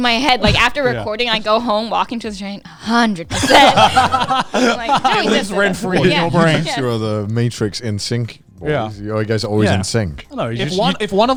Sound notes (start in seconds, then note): 3.2 all laughing